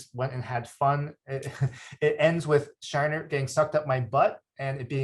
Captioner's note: chuckles